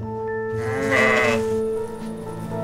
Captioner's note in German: Blöken